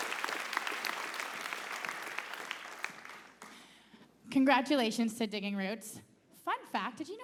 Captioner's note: applause